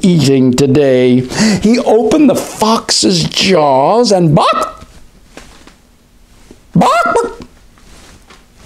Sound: chicken clucks

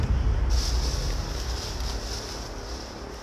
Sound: bag rustling

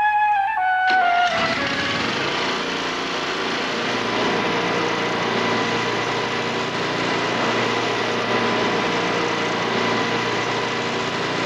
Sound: loud woodchipper

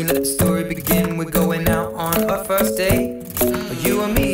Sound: mmmm

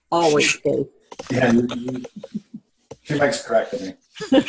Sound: chuckles

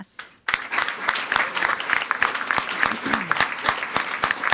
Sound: everyone applauding

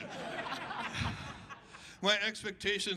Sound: crowd laughing

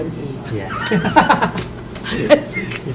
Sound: laughs

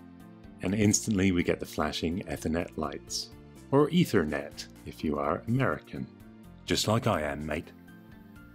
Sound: American accent; sarcastic tone

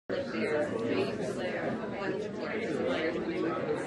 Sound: chatter

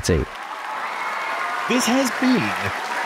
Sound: audience cheering

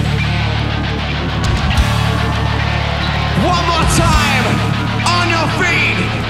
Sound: intense power metal music continues; audience cheers

